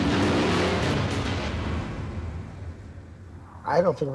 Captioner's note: dramatic music; motorcycle engine revving